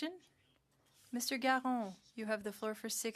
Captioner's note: speaking French